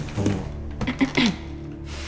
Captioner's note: Moneta clears throat